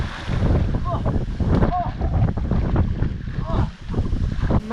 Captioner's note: grunting